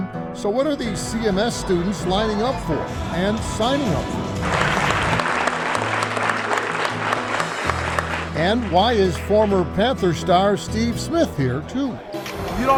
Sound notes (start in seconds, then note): 4.2 audience applauds